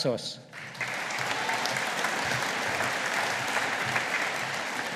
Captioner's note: audience applauding